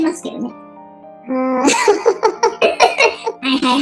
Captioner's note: laughs